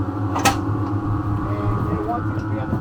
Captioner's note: machine buzzing; machine clicks